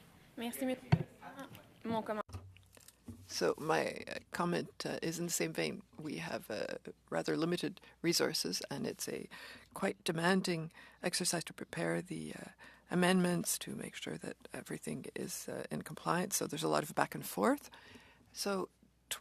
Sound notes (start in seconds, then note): 9.9 speaking French